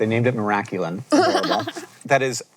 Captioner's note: chuckles